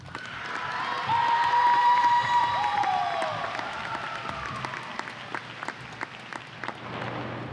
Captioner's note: applause and cheers